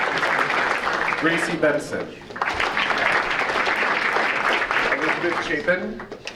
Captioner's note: audience applauding